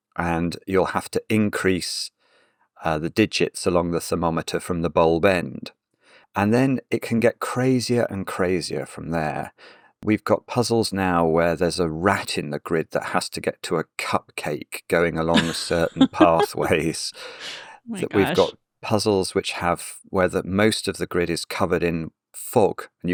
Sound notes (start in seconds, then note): 15.3 laughs